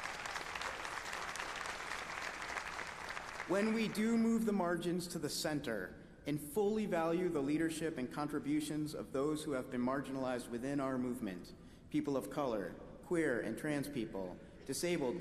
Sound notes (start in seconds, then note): 4.3 applause